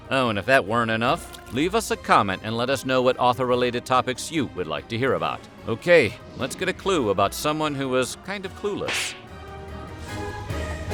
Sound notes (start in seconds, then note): 8.8 smack